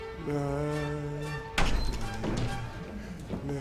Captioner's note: music playing in the room; door opening